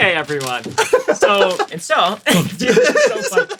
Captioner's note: laughs